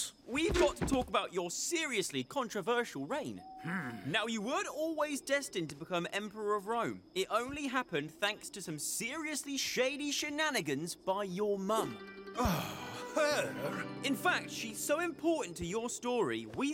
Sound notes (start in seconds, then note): 12.3 sighs